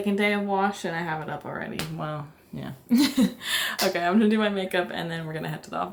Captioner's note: laughter